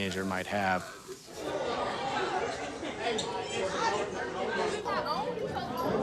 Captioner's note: students laugh and chatter